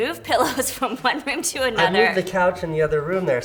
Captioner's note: laughs